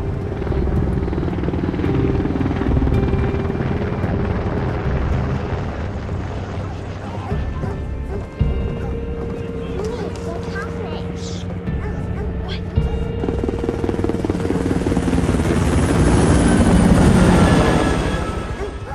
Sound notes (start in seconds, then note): 0.2 helicopter rotors spinning; 4.5 dogs barking